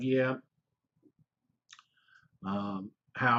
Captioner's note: pause